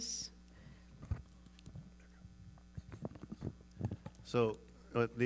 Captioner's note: mic scuffling